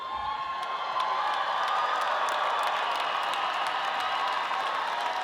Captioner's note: audience cheering